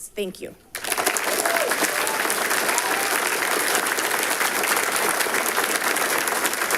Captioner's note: audience applauding and cheering